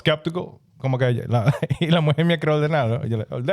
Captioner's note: speaking In Foreign Language